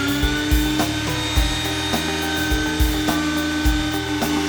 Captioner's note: grinding